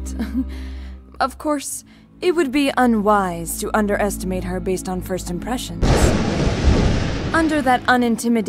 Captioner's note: chuckle; thunder